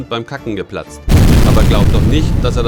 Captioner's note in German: Explosion